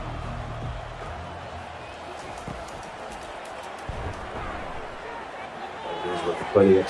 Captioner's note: crowd cheering